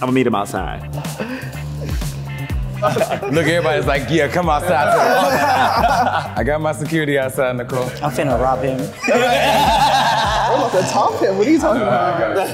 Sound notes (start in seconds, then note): 1.0 funky synth music; 8.9 all laughing